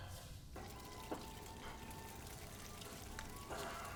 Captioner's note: sizzling